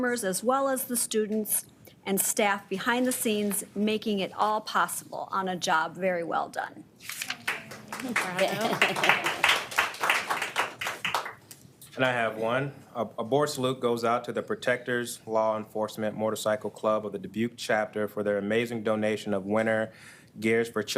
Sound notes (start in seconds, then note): 7.3 audience applauds